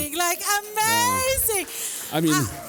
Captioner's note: applause